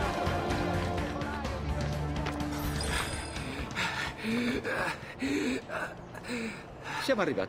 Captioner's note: Ezio arrives at La Volpe's location, panting and out of breath